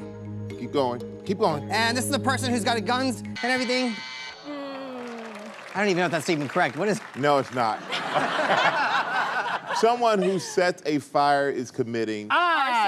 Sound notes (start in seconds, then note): 3.3 buzzer